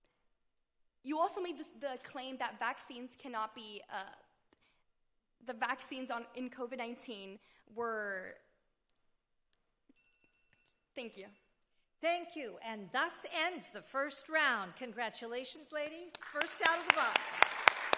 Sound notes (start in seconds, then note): 10.2 timer bleeping; 17.7 audience applauding